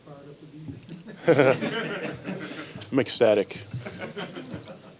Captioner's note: laughs; reporters laugh